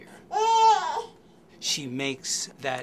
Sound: baby whining

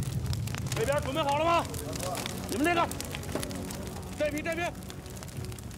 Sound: guard shouts in foreign language

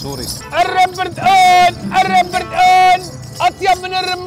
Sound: shouting

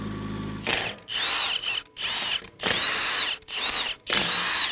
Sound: motor humming; drill whirring

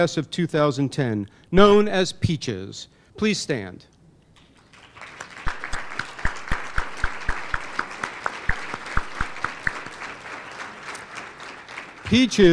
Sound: applause

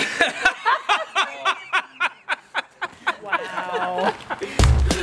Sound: laughter

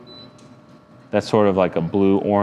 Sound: firebox beeping

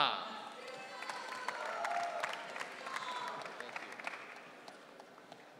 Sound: audience cheering

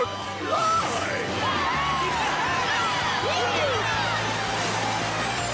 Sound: all cheering

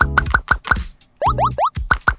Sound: tap Tap Tap

